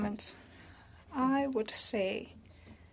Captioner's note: speaking French